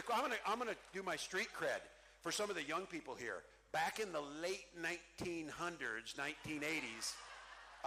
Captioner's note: cheering